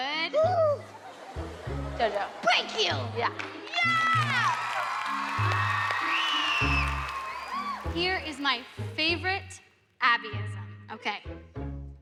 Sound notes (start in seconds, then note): 0.8 audience laughs; 3.6 cheering